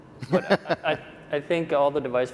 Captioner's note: laughing